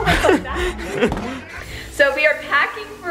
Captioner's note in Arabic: ضحكات خافتة